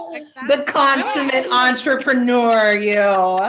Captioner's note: both laughing